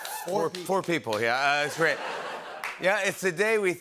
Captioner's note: laughter